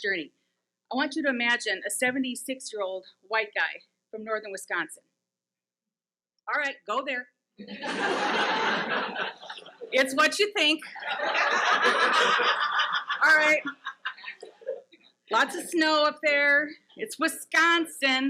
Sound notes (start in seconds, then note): 7.6 audience laughs